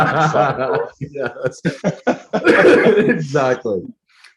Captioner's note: laughing